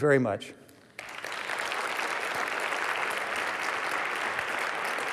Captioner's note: applause